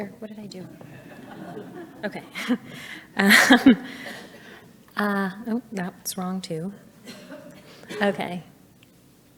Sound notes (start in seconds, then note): 0.6 audience laughing; 0.6 laughs